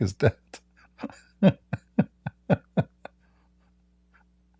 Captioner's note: Ketawa